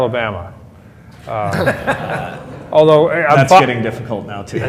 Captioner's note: laughter